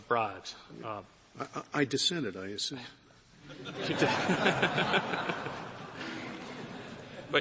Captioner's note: laughter